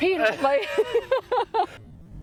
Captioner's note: laughter